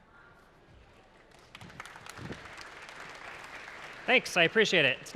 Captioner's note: applause